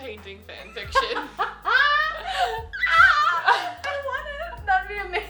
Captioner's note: laughing